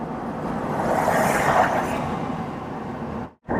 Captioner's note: car passing